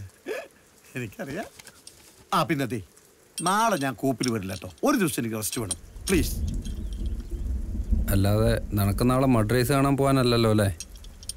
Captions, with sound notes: That's correct Hahn! I forgot to tell you I won't come to work today I need rest for a day Please (Rain Sound) I know you're planning to watch the mud race tomorrow